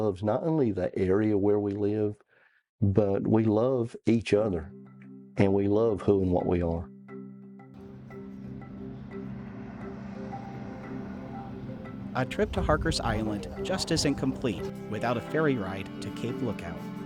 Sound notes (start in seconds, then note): 6.9 slow dramatic music; 7.7 boat engine roaring